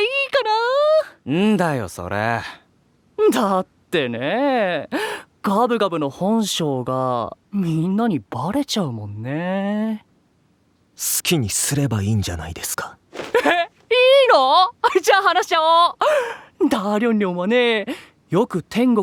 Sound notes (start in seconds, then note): 13.3 excited